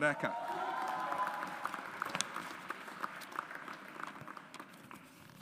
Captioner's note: audience applauds